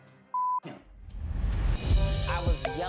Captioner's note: beep